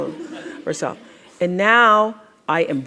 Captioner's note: crowd laughs